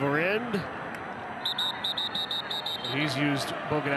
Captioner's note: referee blows whistle